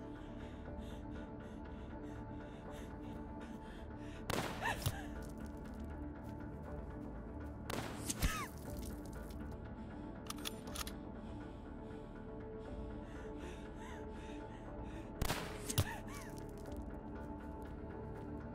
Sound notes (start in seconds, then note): 4.6 gasping; 4.6 gun firing